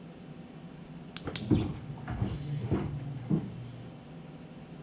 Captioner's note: device clicks; footsteps above